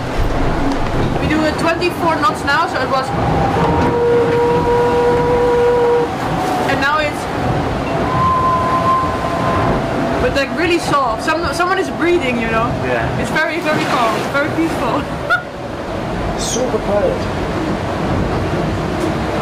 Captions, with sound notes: We do 24 knots now so it was... [Humming] And now it's... [Whisteling] But like really soft. Someone is breathing you know. It's very very calm. It's very peaceful. Super quiet.